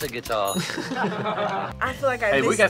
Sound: both laugh

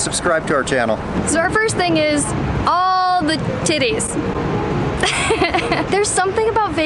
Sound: chuckles

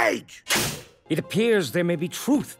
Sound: cage bangs

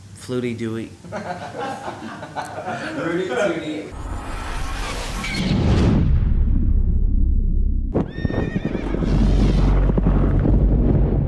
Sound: laughter

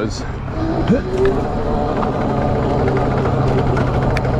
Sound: bike motor revving

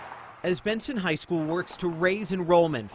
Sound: NATS: car passing

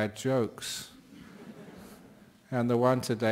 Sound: laughter

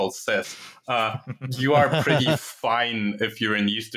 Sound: laughter

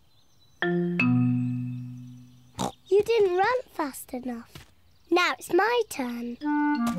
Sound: snorts

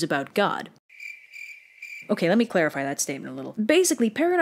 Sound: crickets chirping

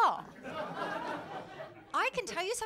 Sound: laughter

